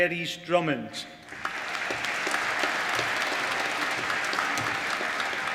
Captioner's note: applause